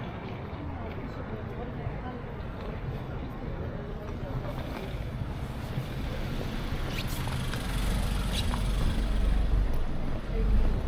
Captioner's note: wind blowing